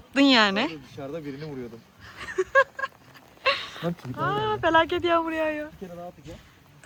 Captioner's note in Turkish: kahkaha